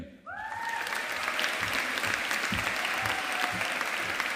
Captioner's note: audience applauding